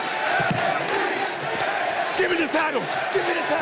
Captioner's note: applause